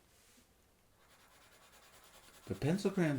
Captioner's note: pencil scratches